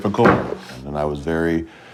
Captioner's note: juice slamming